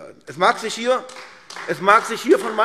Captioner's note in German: Beifall AfD